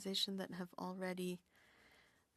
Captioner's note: speaking French